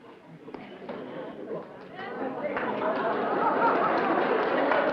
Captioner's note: applause, laughter